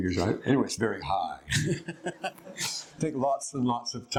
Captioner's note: laughter